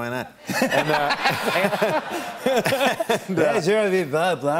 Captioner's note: laughter